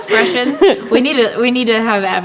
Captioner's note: laughter